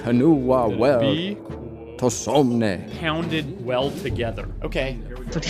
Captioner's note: speaking Old English